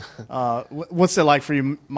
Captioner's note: chuckles